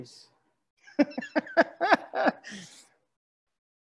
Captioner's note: laughs